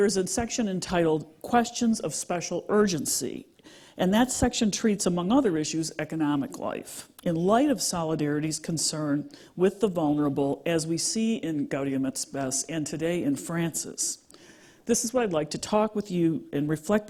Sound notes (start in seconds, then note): none